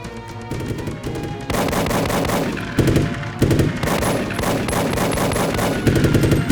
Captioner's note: gunshots blasting; machine gun blasting